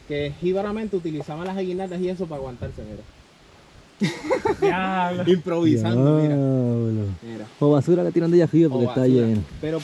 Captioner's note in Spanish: risas